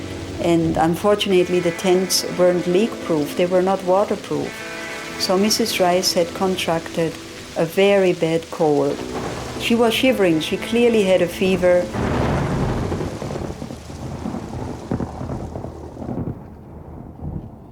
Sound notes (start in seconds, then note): 12.1 thunder and rain